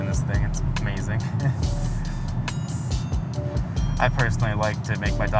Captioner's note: chuckles